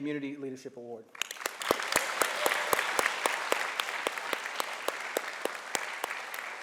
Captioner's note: applause and cheering